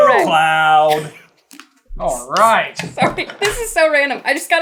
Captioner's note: laughing